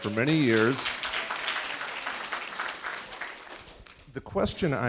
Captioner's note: audience applauding